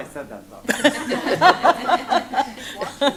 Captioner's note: laughter